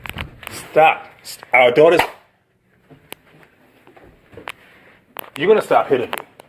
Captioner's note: smacking noise